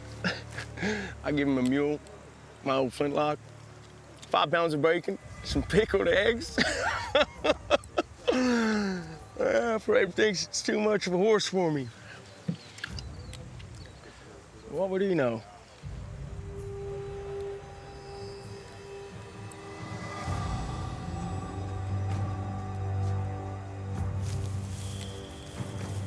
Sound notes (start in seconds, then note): 6.5 laughs